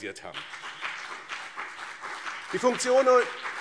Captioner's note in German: Beifall BÜNDNIS 90/DIE GRÜNEN und CDU